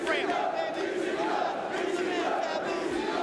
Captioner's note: crowd chanting